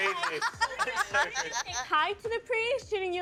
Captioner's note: laughing